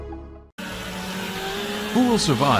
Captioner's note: chainsaw rumbling